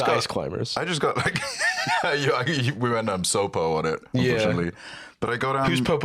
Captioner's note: laughs